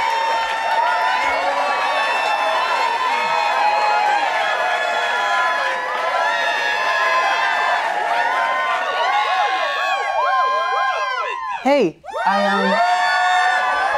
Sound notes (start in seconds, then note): 1.7 cheering continues; 13.7 cheering continues